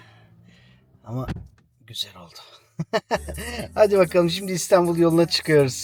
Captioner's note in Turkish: kahkaha